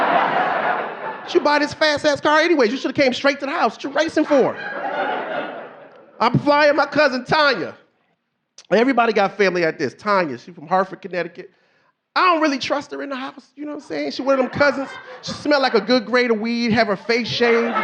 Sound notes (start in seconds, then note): 0.0 audience laughing; 6.1 audience laughing